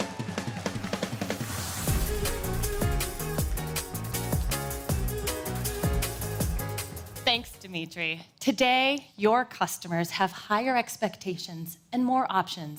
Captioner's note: cheers and applause